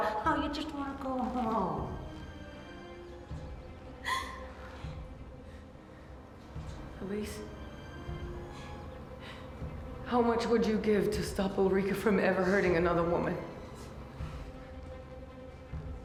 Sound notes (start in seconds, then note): 3.2 crying